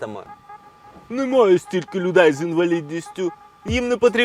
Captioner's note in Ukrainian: пафосним голосом